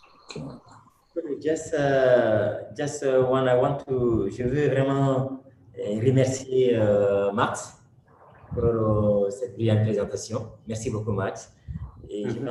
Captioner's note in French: Speaking in French